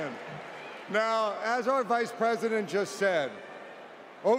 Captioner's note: cheering